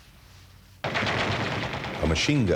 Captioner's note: machine-gun fire